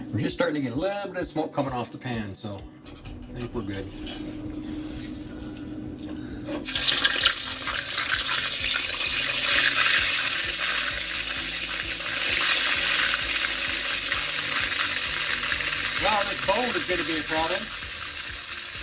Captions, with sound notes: We're just starting to get a little bit of smoke coming off the pan. So I think we're good. (water splashing) (machinery whirring) Wow, this bowl is gonna be a problem.